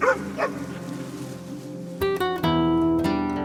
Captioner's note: dog barking